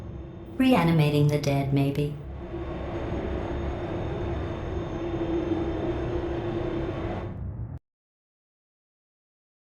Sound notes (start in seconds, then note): 2.2 distorted noise